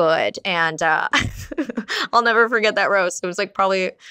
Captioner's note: laughs